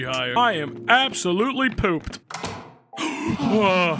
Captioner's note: gasps